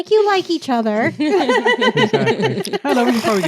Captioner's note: laughing